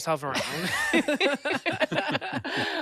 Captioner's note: laughter